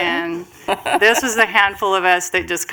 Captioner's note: laughter